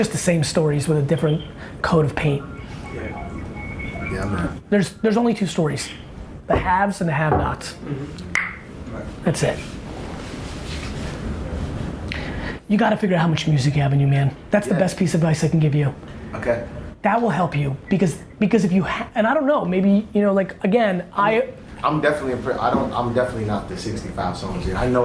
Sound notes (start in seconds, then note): 8.2 mouth clicking